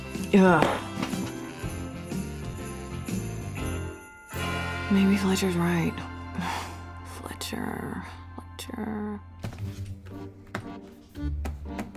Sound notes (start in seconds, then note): 6.5 sighs